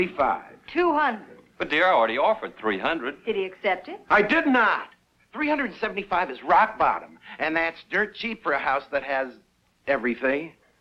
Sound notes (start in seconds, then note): none